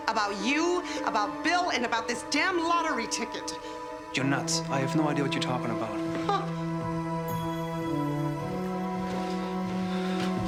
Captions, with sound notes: about you, about Bill, and about this damn lottery ticket. - You're nuts. I have no idea what you're talking about. (Nora laughs)